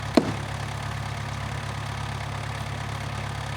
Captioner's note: wood thumps